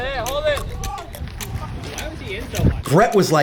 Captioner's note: in-field chatter